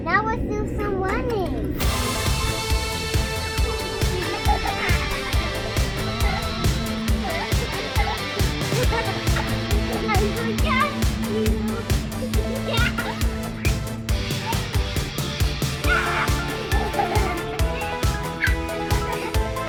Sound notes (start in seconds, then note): 2.0 energetic electronic music; 3.7 both giggling; 12.5 laughs; 15.9 both giggling; 16.0 shouts